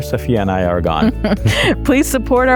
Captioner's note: chuckles